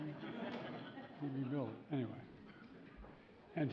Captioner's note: laughter